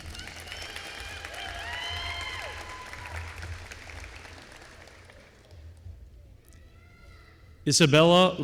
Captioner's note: applause